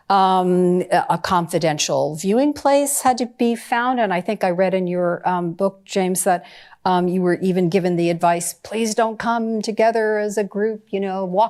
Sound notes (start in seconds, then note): none